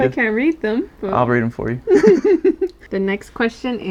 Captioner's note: laugh